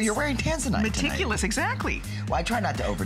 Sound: laughter

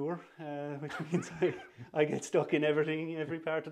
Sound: laughter

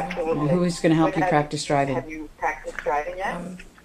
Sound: voiceover

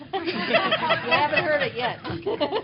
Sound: laughter

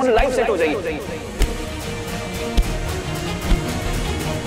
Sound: thumping

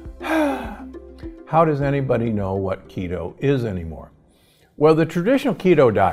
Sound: sighs

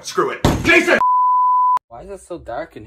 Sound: TV Color Bars Sound Effect

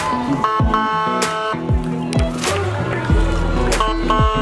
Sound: fire engine honks

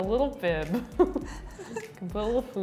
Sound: laugh

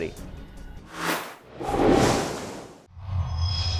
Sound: sound Effects

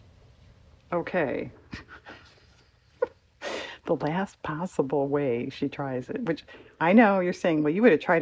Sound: laughs

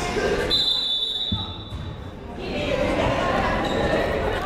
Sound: whistle blowing

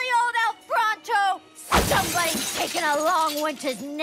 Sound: bat swings, glass shatters

